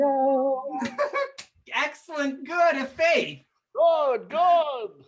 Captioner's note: laughs